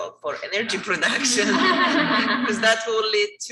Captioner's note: all laughing